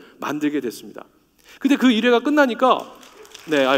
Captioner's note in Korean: 박수 소리